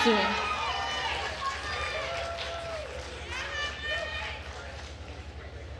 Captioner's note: attendees cheering and applauding